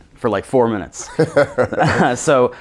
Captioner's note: laughing